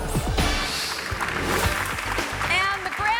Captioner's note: audience clapping